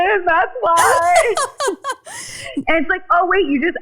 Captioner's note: laughing